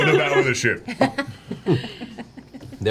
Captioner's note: all laugh